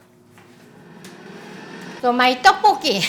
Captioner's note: fryer whirring